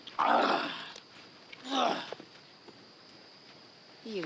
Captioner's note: grunting